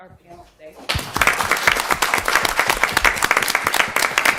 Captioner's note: applause